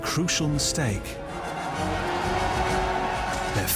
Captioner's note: battle cries